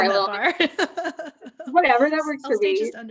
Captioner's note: laughs